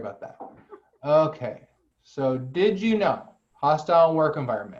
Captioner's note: laughter